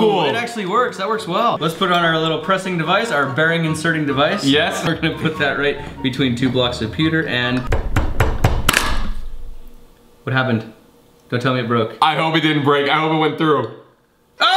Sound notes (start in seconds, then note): 8.8 crunching